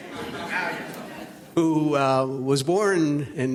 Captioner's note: audience laughs